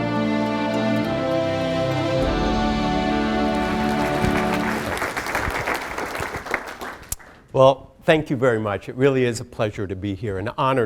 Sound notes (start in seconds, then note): 3.2 applause